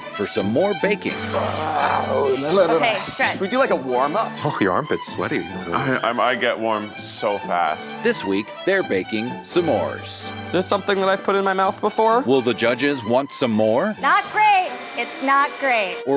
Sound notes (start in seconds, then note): 1.2 Zach exclaims